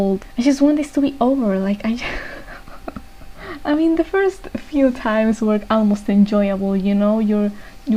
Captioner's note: laughs